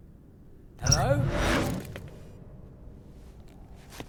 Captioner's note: alien transmission